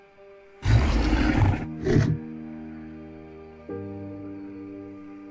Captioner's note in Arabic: موسيقى هادئة; هدير وعرة; موسيقى مهيبة